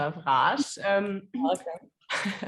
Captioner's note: laughing